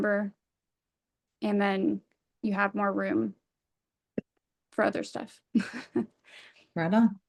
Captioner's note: laughs